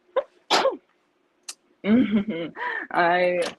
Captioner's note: sneezes